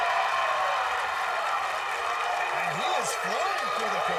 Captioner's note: cheering